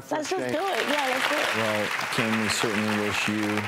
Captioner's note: audience applauding